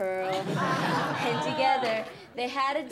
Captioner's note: class laughs